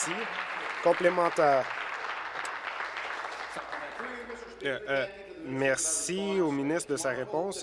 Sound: applause

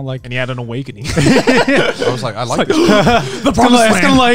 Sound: everyone laughs

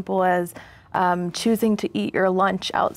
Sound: none

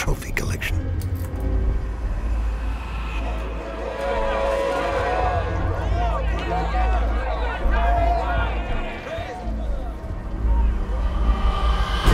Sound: gang continue to shout and chant

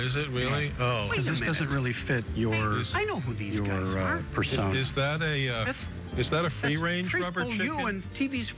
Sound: indinstinctive chatter

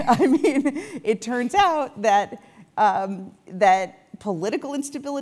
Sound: laugh

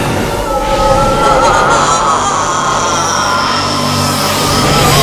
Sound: screaming

